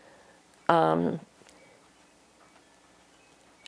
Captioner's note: pauses 6 seconds